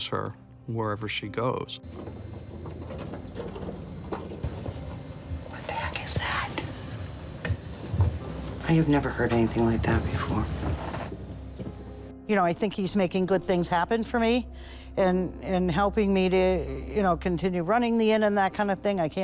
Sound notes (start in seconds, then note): 3.2 tapping; 7.4 whispering